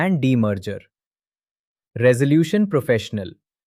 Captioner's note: pause